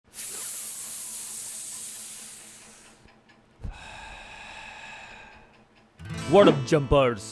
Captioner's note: heavy inhale